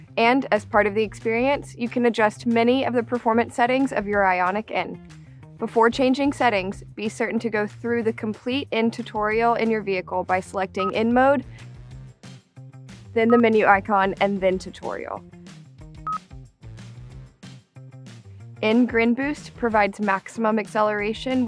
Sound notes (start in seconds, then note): 16.0 upbeat music; 16.0 screen beeps